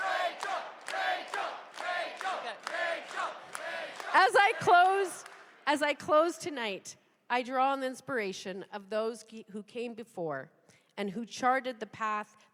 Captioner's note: cheers and applause; chanting rachel